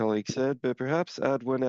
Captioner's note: speaking French